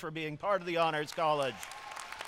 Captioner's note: applause